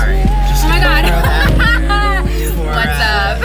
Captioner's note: laughs